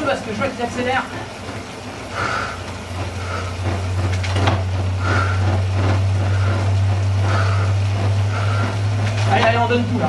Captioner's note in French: soufflements